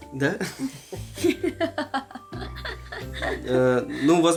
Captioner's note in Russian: смех